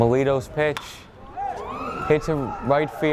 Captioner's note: bat thwacks